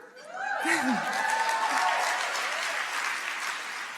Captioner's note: audience cheering